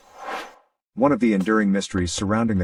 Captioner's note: air swooshes